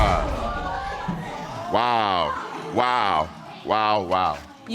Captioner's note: audience exclaims